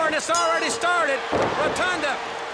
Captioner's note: bell ringing